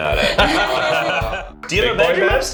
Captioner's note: laughs